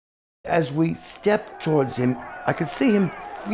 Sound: crowd yelling in background

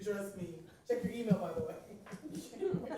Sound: laughter

